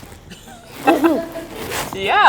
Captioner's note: all laugh